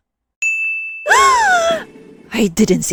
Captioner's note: shock